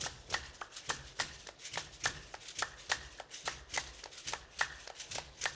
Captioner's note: hands clapping and beads rattling